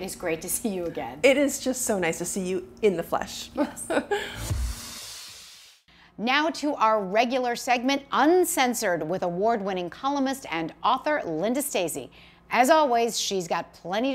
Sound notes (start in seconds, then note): 3.6 laughs